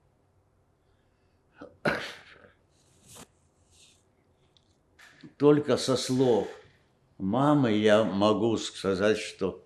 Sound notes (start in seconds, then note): 1.6 coughing